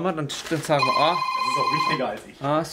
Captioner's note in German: Telefon klingelt